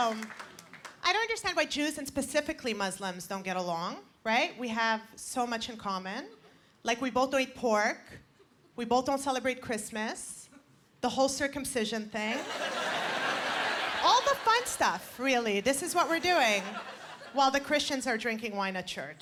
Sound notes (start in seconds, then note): 12.3 laughter